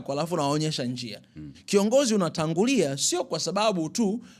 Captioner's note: clears throat